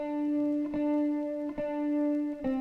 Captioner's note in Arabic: none